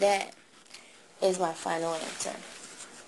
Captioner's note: shuffles paper